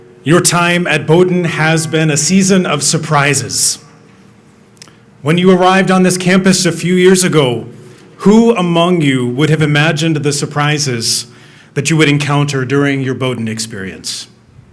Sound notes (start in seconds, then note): none